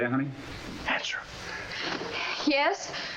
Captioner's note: whispers